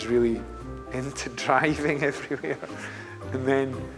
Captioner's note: laughs